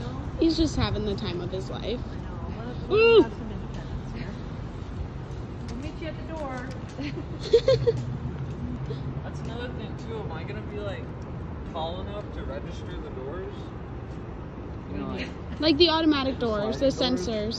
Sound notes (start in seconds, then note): 7.0 laughs